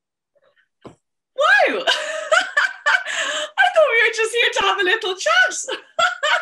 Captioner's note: laughs